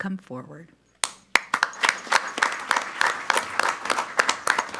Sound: clapping loudly

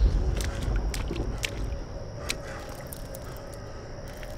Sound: feet thudding; water splashing

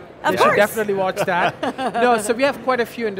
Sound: all laughing

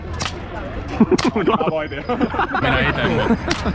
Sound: mocking laughter

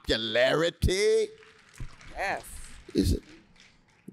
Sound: applause

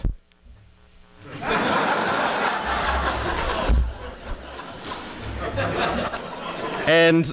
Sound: laughter

